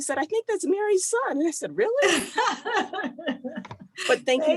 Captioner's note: laughs